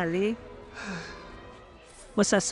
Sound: Diana sighs

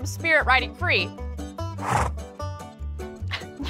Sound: horse snorts

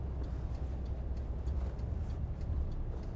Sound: ticking sound

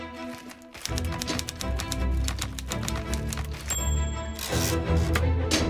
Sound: typewriter typing

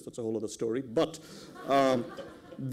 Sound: laughter

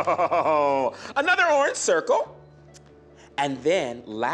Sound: laughing

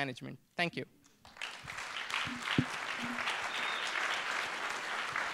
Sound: applause

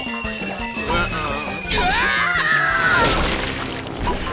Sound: screaming

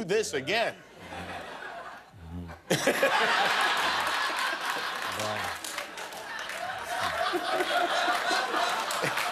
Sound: laughter

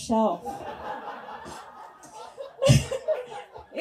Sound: audience laughs

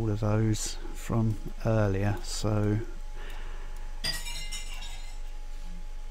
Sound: glass smashing

